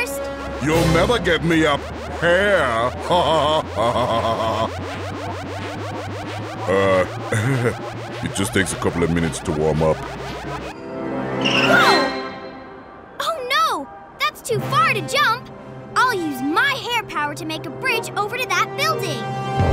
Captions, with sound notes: You'll never get me up hair . [laughing] Uh. [chuckles] It just takes a couple of minutes to warm up. Whoa! Oh, no, that's too far to jump! I'll use my hair power to make a bridge over to that building.